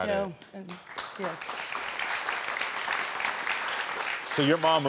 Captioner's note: crowd clapping